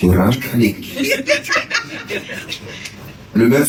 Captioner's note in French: rires